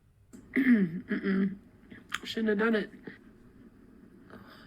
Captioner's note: clears throat